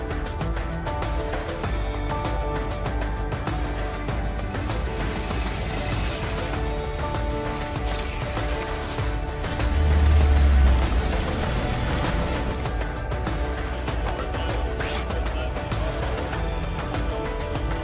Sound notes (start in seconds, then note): 0.2 bright music; 4.8 mechanical whirring; 7.0 bright music; 9.7 monohull roaring; 13.0 bright music; 14.7 indistinct conversation